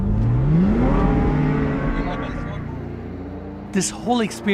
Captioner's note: car engine revving